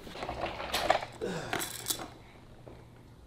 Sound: grunting

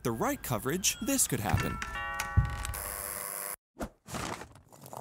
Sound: doorbell

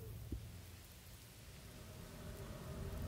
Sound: humming

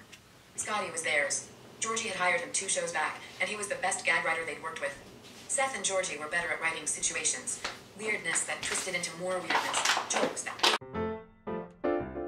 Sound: audiobook playing; instrumental music playing

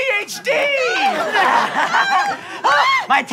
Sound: laughing

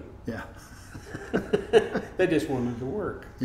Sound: laughing

